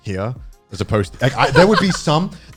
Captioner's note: laughing